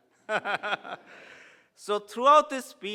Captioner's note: laughs